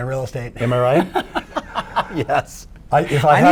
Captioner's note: laughing